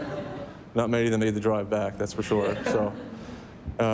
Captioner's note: laughter